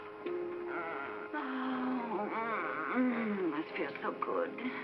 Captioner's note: Gail moans with pleasure; Gail sighs